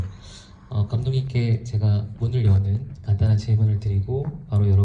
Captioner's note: speaks in foreign language